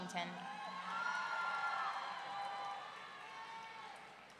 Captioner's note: audience cheering